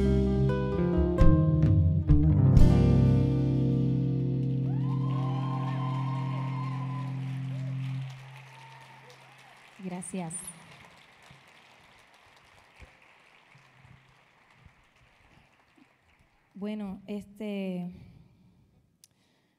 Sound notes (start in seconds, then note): 4.9 audience applauding; 4.9 audience cheering; 9.9 speaking in Spanish